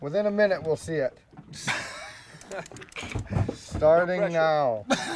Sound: chuckling

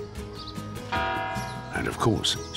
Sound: bell tolls

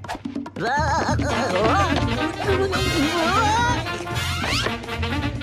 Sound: more porky being unwillingly dragged around noises

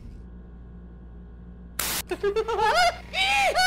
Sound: giggles evil laughter echos

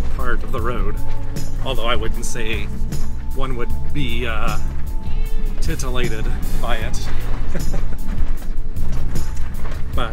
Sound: soft laughter

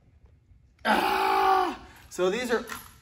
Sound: groans

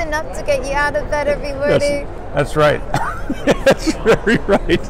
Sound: both laugh

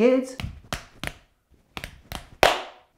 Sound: tapping

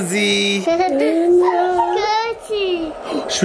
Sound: child laughing

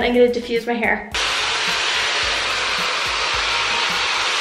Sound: diffuser blowing

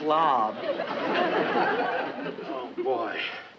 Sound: audience laughs

